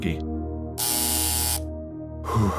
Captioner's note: intercom buzzes